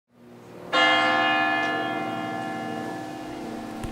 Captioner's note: bell rings